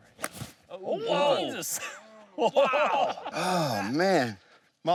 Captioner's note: shocked gasps